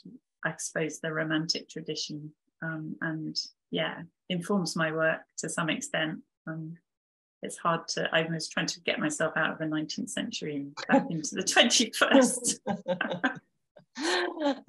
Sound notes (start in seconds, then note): 12.4 both chuckling